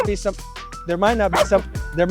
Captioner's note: bark